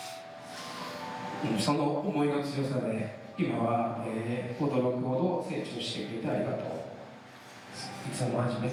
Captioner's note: speaking foreign language